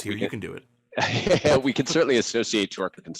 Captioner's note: laughing